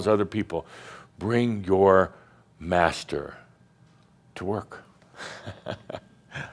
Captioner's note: Adamus chuckles